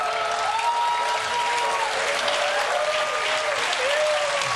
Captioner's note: cheering